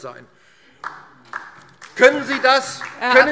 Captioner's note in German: Beifall DIE LINKE